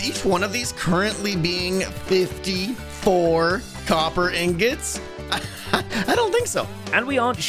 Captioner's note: laughs